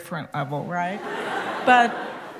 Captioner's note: laughter